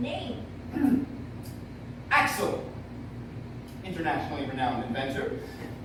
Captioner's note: clears throat